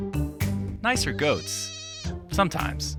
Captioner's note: goat bleats